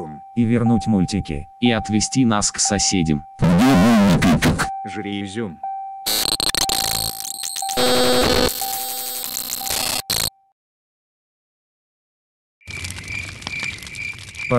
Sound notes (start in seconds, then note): 6.0 glitch sound; 12.7 cricket sound